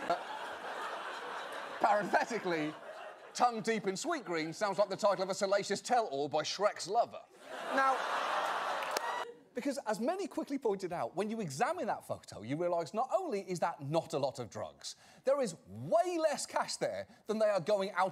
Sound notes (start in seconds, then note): 7.4 audience laughter